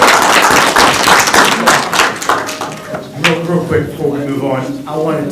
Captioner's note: crowd talking indistinctly